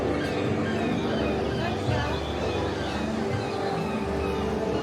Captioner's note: crowd murmuring